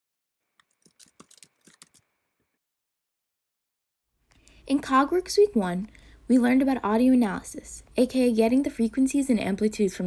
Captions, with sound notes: [TYPING SOUNDS] In CogWorks, Week 1, we learned about audio analysis-- a.k.a. getting the frequencies and amplitudes